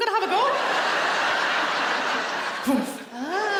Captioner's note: laughing